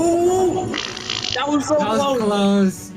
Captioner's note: raspberry blown